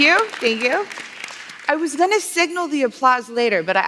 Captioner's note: applause